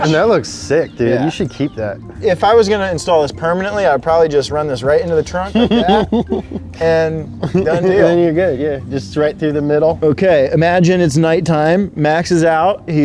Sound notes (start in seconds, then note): 5.1 laughing